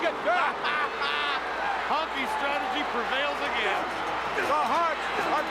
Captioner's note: laugh